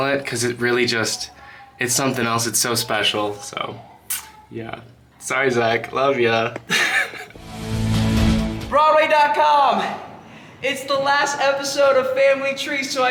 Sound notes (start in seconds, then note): 6.6 laughing; 7.3 upbeat bright music